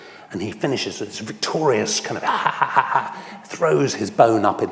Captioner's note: laughs